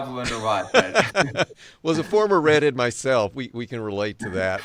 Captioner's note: laughs